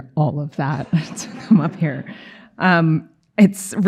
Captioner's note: chuckling